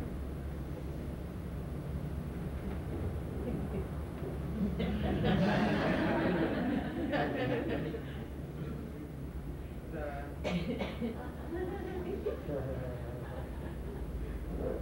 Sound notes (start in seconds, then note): 4.6 laughter